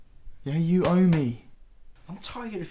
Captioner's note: hand patting